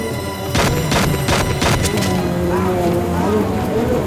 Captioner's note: gun fires